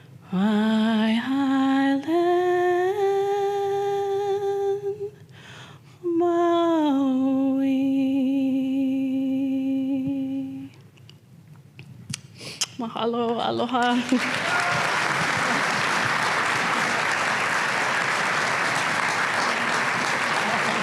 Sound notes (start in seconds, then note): 12.4 kiss; 13.8 applause